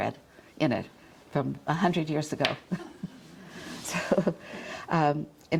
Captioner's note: chuckles